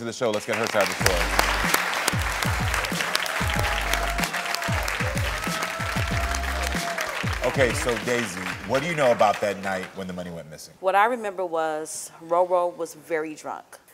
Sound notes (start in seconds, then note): 1.5 audience applauding